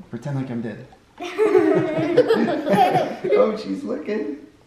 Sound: laughter

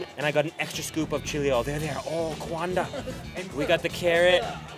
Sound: speaks in Chinese

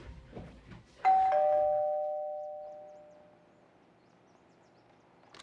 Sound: doorbell rings

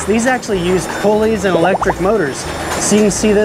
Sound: text burbling

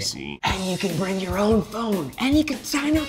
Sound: whispering

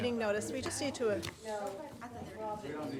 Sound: speaks faintly

